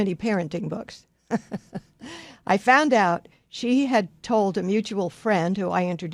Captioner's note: laughs